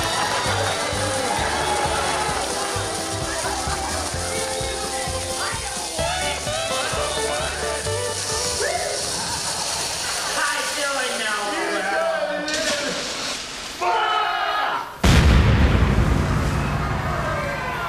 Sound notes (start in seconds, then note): 0.0 audience laughing; 4.0 dynamite sizzling; 12.1 indistinct chatting; 12.4 water splashing; 13.8 cowboys screaming; 15.0 bomb exploding